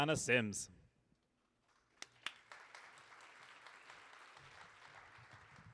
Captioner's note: audience applauding